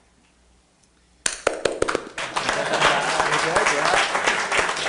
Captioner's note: applauding